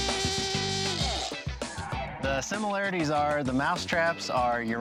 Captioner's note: klaxon horn blows